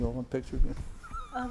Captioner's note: laughs